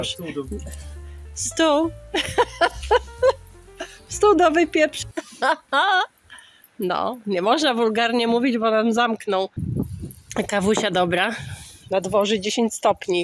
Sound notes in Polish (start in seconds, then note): 2.1 śmiechy; 5.2 głośne śmiechy